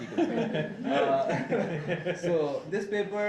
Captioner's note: laughing